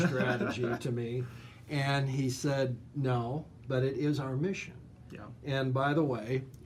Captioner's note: laughs